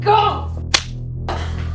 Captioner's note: slap